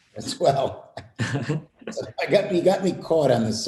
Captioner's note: laughter